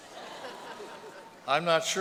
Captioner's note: laughter